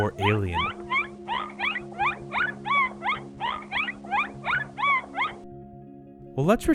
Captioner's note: chirping